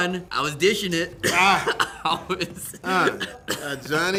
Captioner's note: laughing